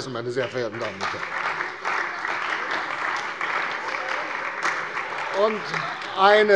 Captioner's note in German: Beifall bei der CDU und dem BÜNDNIS 90/DIE GRÜNEN